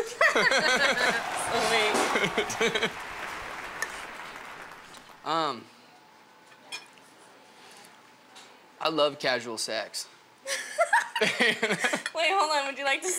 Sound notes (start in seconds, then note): 0.0 both laughing; 3.0 applause; 10.5 both laughing